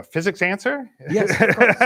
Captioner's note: laughs